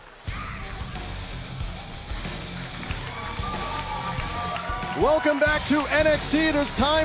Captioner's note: crowd cheering